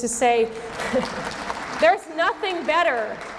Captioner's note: audience clapping